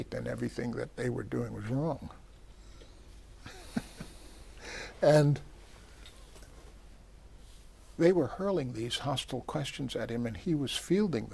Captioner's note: laughs